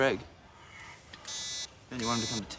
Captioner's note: beeping